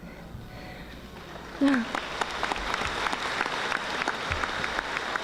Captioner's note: audience applauding